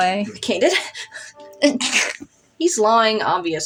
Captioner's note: snicker